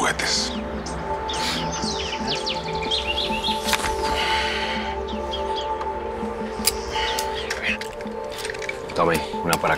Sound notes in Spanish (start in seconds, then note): 3.6 Ruidos al manipular las armas